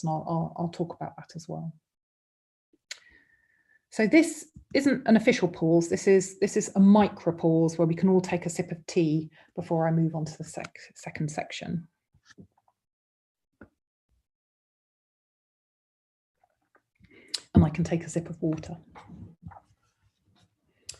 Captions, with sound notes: I'll talk about that as well. This isn't an official pause. This is a micro pause where we can all take a sip of tea before I move on to the second section. [silence] I can take a sip of water.